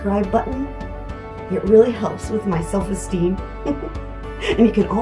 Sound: giggling

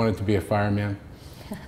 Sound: chuckle

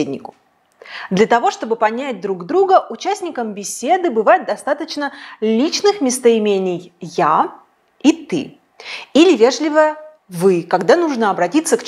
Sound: in Russian - «ты»

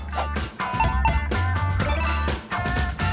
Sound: bell chimes; gentle upbeat music

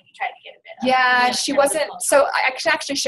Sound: voiceover

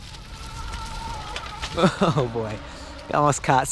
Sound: wheels spinning

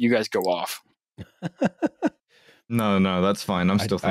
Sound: laughs

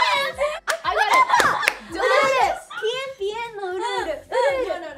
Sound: group laughing; speaking Korean

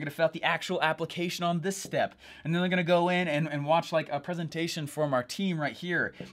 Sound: none

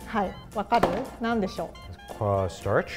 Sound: speaks in foreign language

